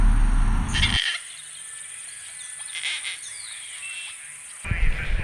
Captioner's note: bird croaks